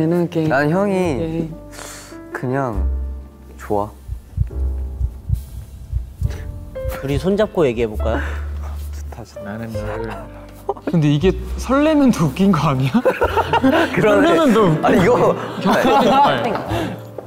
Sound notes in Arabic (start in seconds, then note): 4.0 دقات قلب